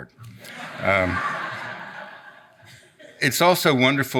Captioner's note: audience laughs